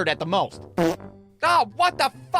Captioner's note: pfft